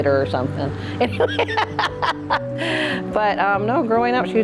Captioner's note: laughs